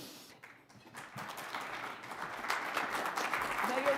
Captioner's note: audience applauding